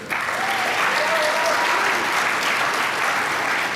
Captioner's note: applause